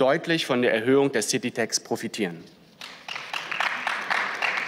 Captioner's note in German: Beifall